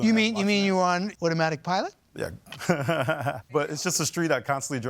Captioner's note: laughing